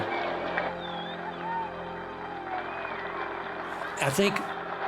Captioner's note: cheering